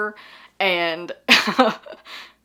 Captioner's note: laughs